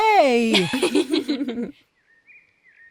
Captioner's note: laughs